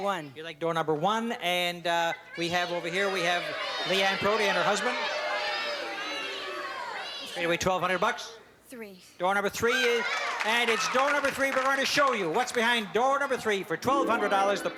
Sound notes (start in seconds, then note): 5.1 audience Shouting